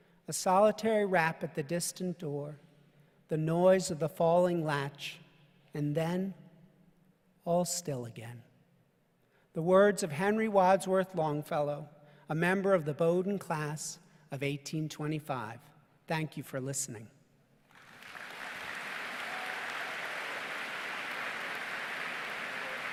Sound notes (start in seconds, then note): 17.7 audience applause